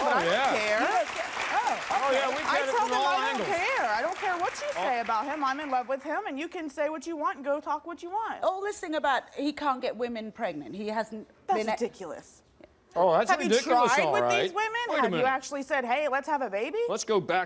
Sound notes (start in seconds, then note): 1.5 audience applauds